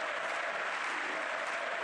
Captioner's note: applause; cheering